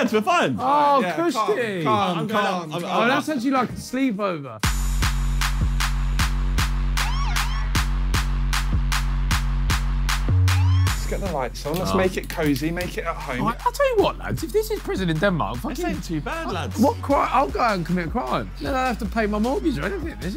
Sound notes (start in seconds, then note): 1.8 indistinct chattering; 4.9 upbeat music